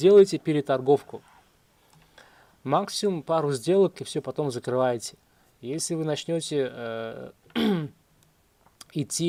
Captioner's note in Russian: откашливается